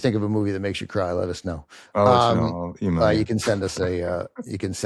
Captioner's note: laughs